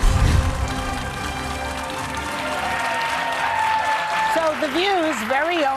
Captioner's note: audience cheering